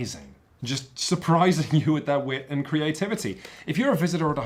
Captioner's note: chuckles